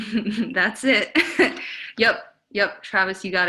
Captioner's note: giggles; laughs